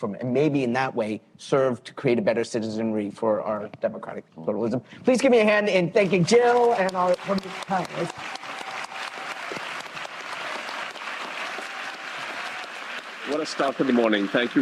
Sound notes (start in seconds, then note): 8.1 applause